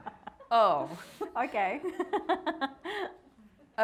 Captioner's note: all laughing; laughing